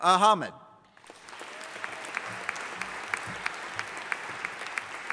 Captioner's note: audience applauding